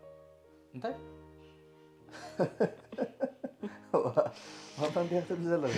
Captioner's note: laughs